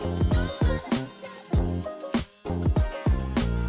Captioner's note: saw buzzing